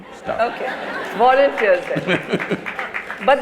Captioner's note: laughter/Applause; Sadhguru laughs